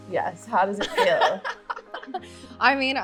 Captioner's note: laughing